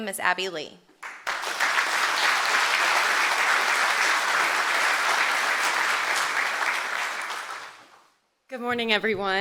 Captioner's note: applause